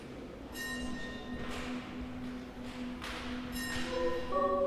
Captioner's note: bell ringing; chior singing